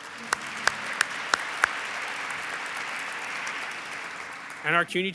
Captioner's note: audience applauds